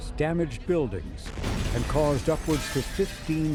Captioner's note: windows shatter